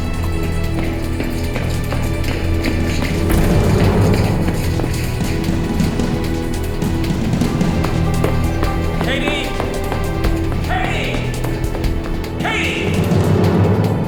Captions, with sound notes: (footsteps thudding) Katie! Katie! Katie!